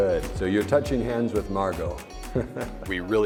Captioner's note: chuckles